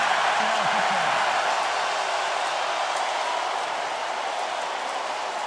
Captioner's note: crowd cheering